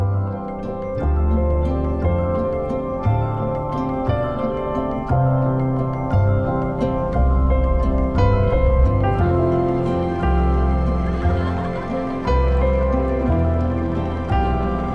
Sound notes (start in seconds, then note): 11.1 laughter